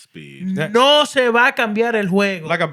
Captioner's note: speaking Spanish